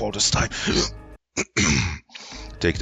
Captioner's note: clears throat